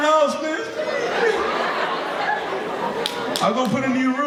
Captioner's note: audience laughing